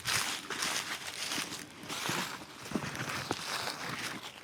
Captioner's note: leaves crunching